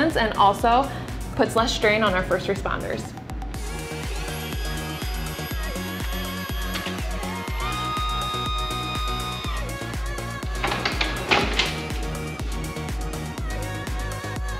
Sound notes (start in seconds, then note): 3.7 cot whirring; 3.7 upbeat music